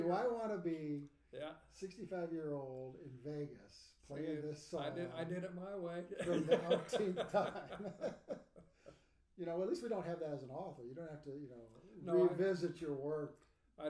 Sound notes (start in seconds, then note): 6.1 laughing; 6.2 speaking faintly